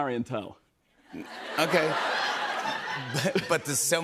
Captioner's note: laughter